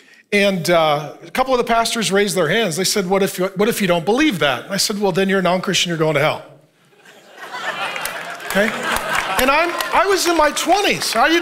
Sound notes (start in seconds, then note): 6.9 congregation laughing; 10.3 congregation applauding